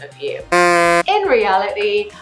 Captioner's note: buzzer buzzing